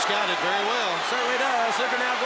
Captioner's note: crowd chatter